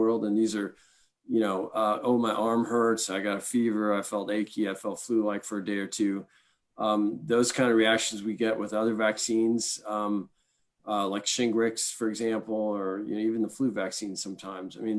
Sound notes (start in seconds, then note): none